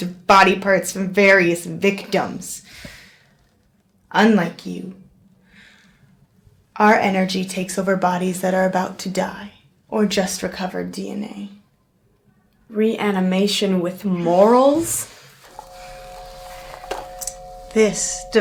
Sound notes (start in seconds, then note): 15.4 device humming